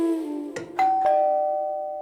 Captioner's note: door Bell Ring